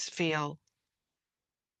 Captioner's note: speaking French